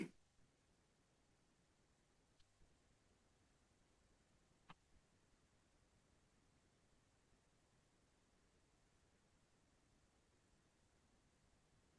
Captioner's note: silence